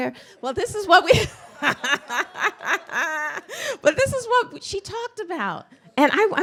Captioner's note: laughs